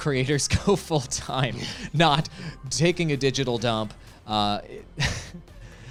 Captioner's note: laughs